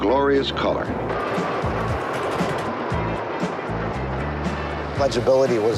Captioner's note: subway clacking